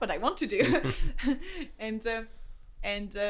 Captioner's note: laughs